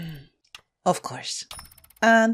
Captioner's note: heavy breath